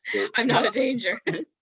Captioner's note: laughs